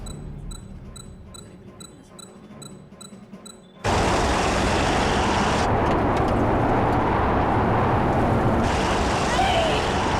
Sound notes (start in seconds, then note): 0.0 machine beeps; 3.9 wind blowing